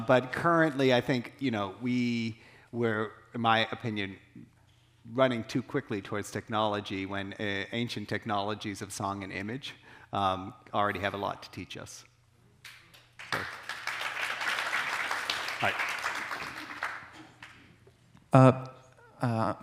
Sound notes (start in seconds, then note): 12.7 audience applauding